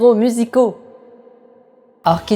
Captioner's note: echo